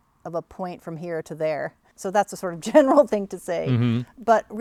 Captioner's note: laughs